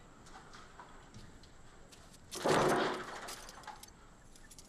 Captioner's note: clatter